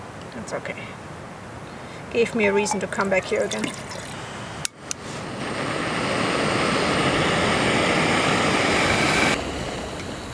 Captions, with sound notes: That's okay. It gave me a reason to come back here again. [sound of gas stove]